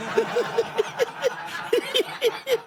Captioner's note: laughter